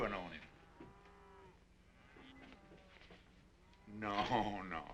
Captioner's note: cows mooing